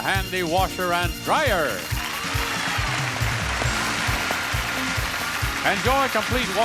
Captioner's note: upbeat music; audience cheers and applauds